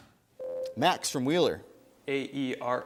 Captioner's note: ding